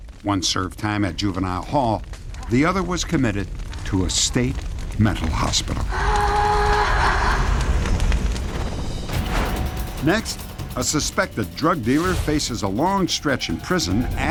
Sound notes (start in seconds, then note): 6.4 echoing laughter